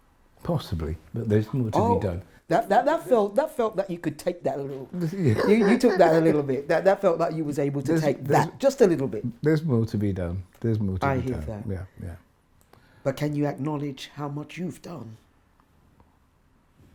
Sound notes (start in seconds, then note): 5.0 laughs